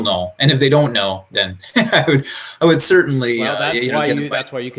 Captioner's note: chuckling